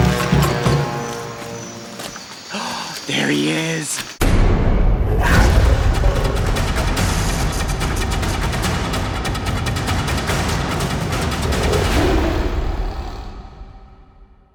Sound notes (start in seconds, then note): 2.4 gasping; 5.4 dynamic jungle music